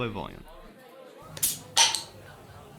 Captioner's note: cap pops